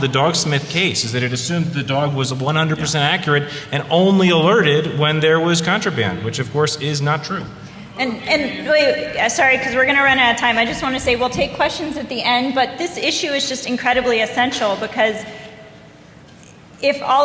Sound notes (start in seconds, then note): none